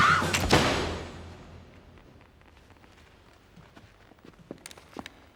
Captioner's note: scream; gunshot